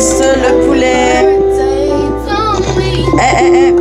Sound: humming

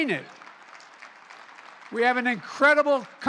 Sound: applause

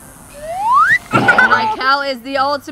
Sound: laughter

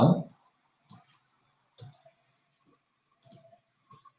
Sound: mouse clicking

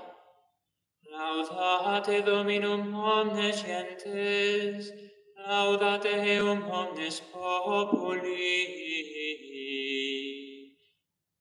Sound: chant

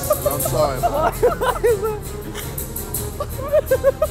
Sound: laughter

